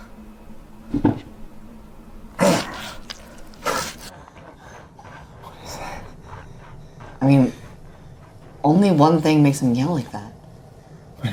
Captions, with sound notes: (Janus chuckles) (Janus grunts) - What is that? - I mean, only one thing makes him yell like that.